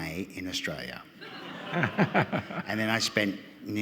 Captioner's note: audience laughing